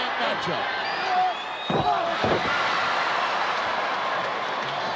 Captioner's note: crowd cheering